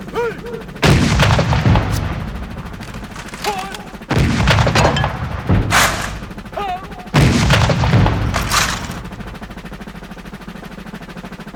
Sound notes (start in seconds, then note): 1.2 gunshots; 4.2 gunshots; 7.7 gunshots